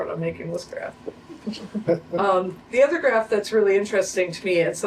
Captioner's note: laughter